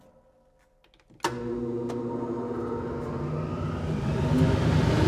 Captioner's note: engine roaring